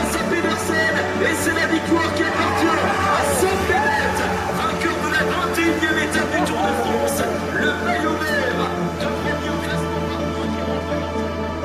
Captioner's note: announcer speaking foreign language